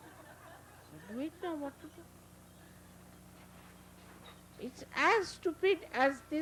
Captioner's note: laughter